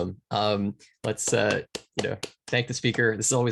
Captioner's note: claps